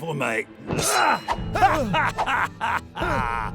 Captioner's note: sword swishes; cackling